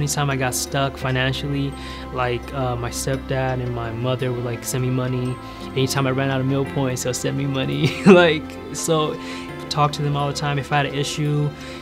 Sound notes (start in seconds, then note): 7.8 laughing